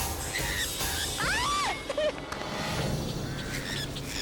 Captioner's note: bird squawking; pedestrian screams; bird squawking